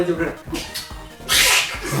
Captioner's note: smooch